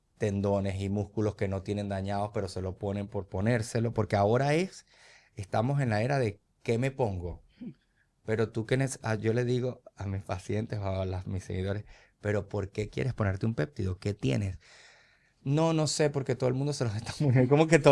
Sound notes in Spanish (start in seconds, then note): 7.6 carraspeo